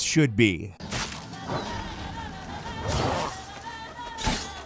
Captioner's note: gameplay playing